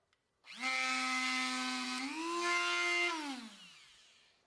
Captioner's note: Dremel buzzing; Dremel stops